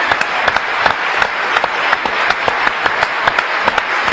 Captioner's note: applause